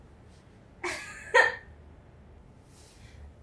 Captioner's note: giggle